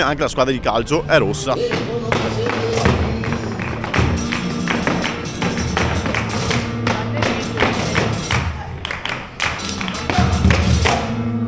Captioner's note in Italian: Applauso